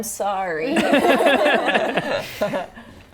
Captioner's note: laughing